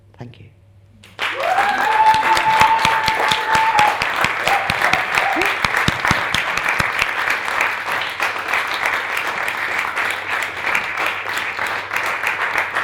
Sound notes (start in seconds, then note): 1.2 audience applauds and cheers